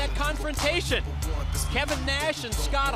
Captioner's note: crowd cheering